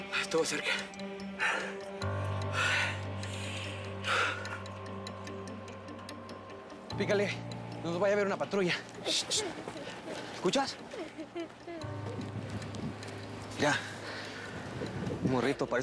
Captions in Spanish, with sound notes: ESTUVO CERCA. [CONTINÚAN LOS JADEOS] PÍCALE. NO NOS VAYA A VER UNA PATRULLA. [SE OYE EL LLANTO DE UN NIÑO] ¿ESCUCHAS? YA. UN MORRITO. PARECE QUE ESTÁ SOLO.